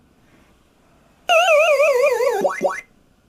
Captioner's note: Pacman death tolls